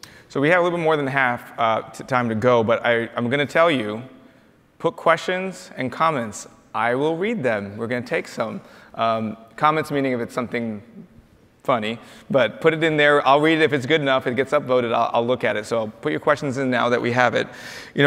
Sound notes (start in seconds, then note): none